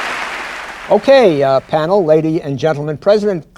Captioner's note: applause